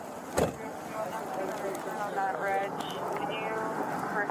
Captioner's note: radio chatter